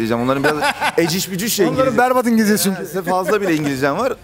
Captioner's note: both laughing